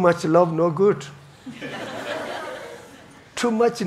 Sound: audience laughing

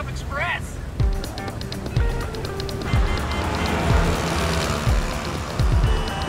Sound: upbeat music; horns honk

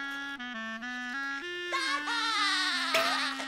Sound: SpongeBob laughing

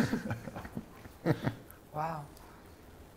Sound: chuckles; others chuckle

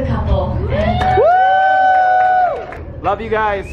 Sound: crowd cheering and applauding

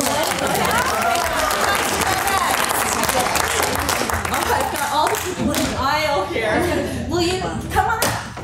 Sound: applause

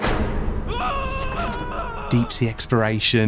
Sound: scared yell

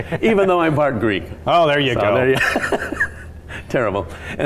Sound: laughing

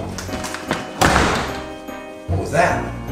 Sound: door slams

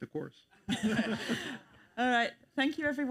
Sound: all chuckle

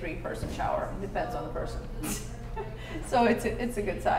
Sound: laughing

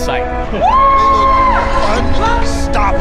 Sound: team cheering

